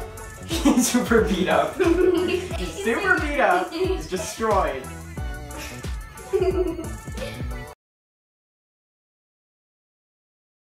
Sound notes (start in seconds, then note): 0.5 laughs; 6.2 giggles